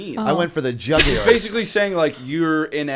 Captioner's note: chuckle